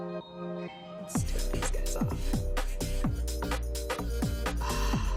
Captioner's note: upbeat music; sighs